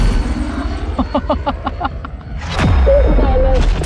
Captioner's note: blades whirring; Emelia laughs